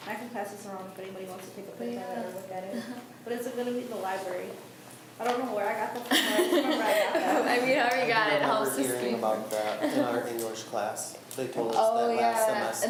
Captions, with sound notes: I can pass this on if anybody wants to take a look at it. But it's at the library. I don't know where I got that from. (laughs) >> I mean I already knew about it. >> In our English class, they told us that.